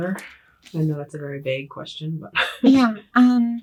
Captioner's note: laughs